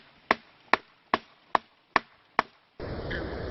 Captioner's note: tree knocking